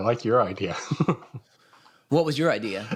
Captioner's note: laughs